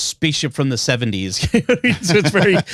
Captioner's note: laughing